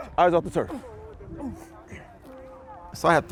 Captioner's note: breathing heavily